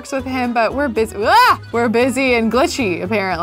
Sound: yells

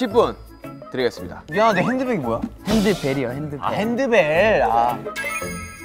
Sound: hand bells

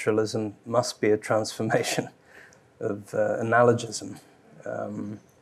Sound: chuckles

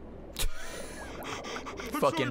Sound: laughs

